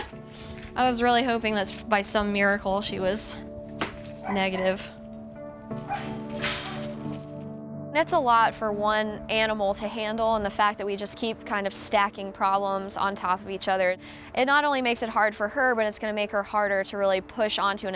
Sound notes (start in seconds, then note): 5.8 kennel door clanks